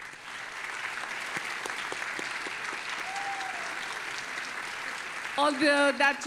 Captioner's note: audience applauding and cheering